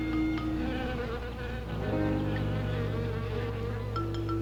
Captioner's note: buzzing